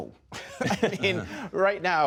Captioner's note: laughter